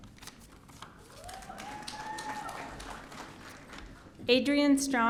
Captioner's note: audience cheering